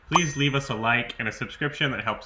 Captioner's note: icon dings